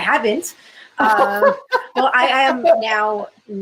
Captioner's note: laughter